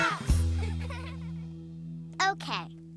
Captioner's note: all laugh